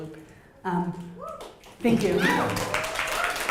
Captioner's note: cheering